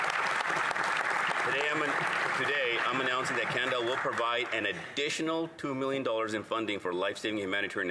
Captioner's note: applause